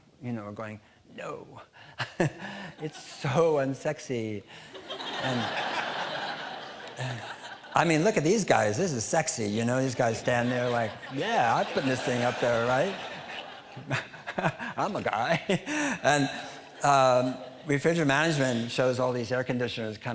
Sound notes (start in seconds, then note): 2.0 all chuckling; 4.7 audience laughing; 13.1 audience laughing; 14.1 laughing